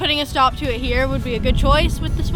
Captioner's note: wind blowing